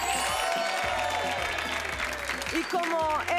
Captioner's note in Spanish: Aplausos